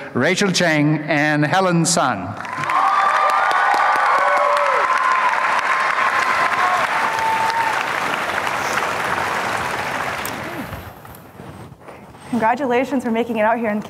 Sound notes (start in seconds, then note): 2.3 applause and cheering